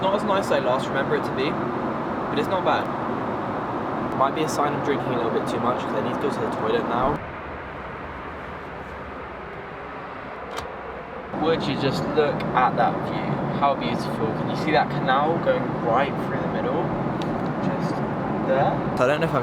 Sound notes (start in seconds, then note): 10.4 lock clicks